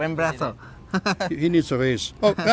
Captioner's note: speaks spanish